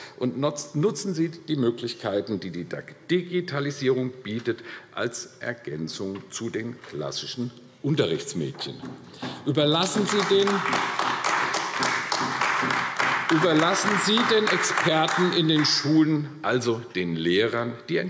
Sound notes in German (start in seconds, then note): 9.7 Beifall AfD